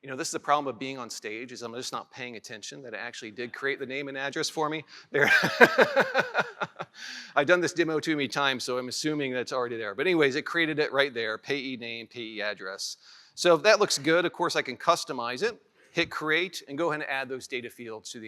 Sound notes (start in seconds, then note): 5.2 laughs